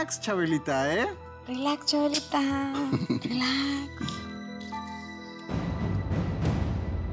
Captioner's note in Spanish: Ríe